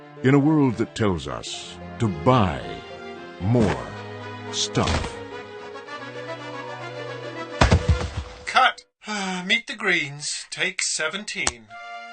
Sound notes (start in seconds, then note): 0.0 dramatic music; 6.0 music intensifies; 7.6 thud; 9.7 sigh